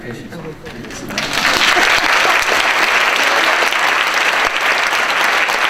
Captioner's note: audience applauding